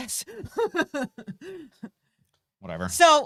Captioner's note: laughing